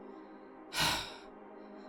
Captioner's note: b i g sigh